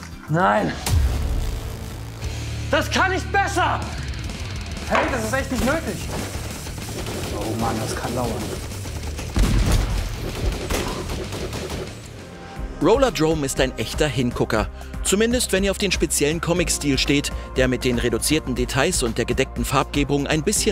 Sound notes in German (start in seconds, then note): 0.6 Düstere Töne; 6.2 Schüsse; 8.3 Schüsse, Krachen